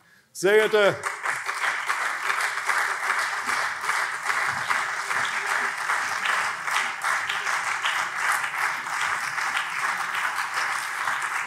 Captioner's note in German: Beifall CDU und SPD